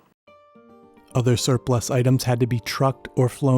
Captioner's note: voiceover